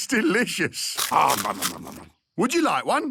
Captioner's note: crunching